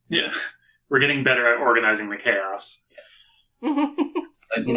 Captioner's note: laughing